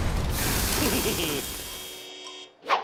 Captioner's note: chuckles